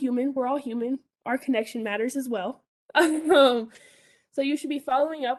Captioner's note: chuckles